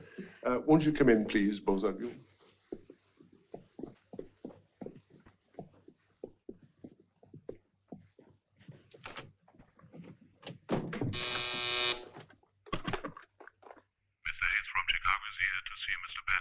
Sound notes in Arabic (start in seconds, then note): 0.1 يضحك; 11.1 رنين الهاتف